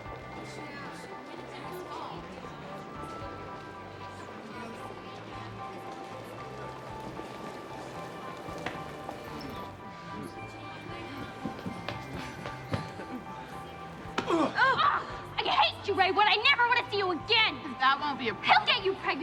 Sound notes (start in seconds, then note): 14.2 both groan; 14.3 exclaims